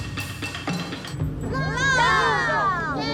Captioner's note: cheering